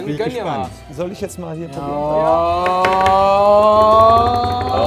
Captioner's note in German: Spannungsvolle Rufe